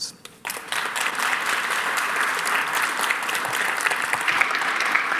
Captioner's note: audience applauding